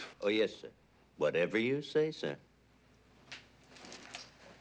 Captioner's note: none